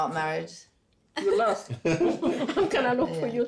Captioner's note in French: tout le monde rit